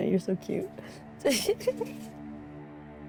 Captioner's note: chuckles; somber music playing